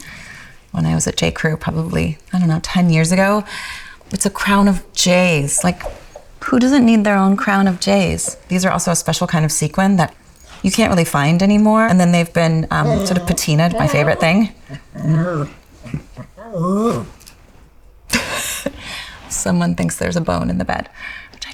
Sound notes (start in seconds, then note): 14.8 Jenna laughing; 14.8 dog growling